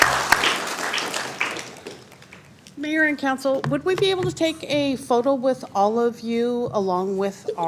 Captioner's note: applause